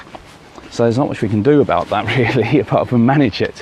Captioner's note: laughs